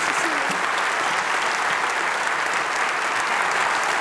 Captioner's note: applause